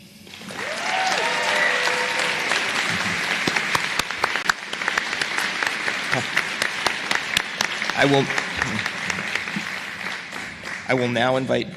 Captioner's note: applause